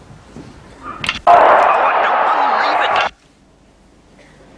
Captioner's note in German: Gebrüll von Fußballfans